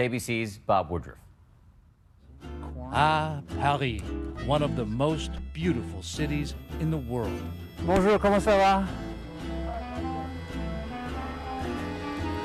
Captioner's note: speaking french